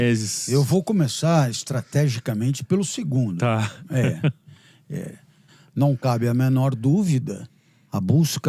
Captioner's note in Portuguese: risadas